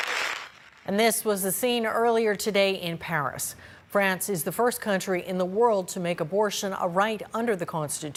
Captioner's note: applause